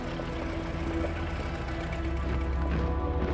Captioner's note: engines running